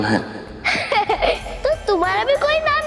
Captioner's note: laughs